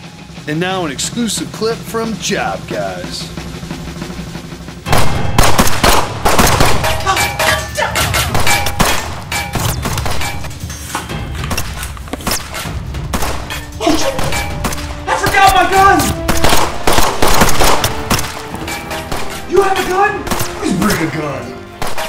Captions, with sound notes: And now an exclusive clip from Job Guys (panicked noises) Oh sh... I forgot my gun! You have a gun? I always bring a gun.